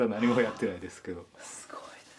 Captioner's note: laugh